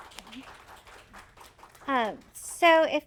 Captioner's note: audience applauding